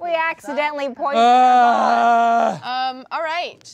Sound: groaning

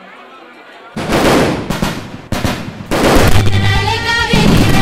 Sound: fireworks exploding

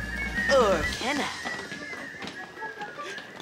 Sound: whistling

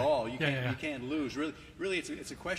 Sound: laughter

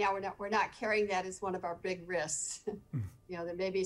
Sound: chuckling

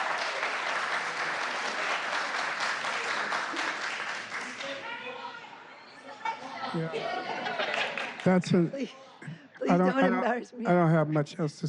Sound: applause

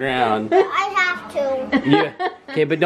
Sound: laughing

